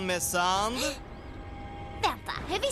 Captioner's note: gasps